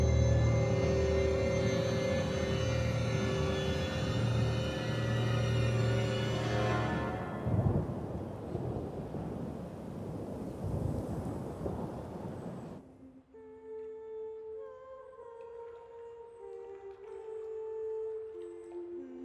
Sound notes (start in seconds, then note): 6.8 le tonnerre gronde; 12.8 musique douce